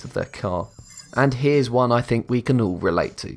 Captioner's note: futuristic ringing